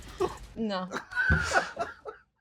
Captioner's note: laughing